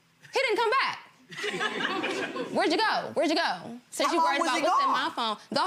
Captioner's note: gallery laughs